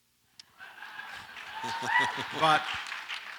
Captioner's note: audience laughs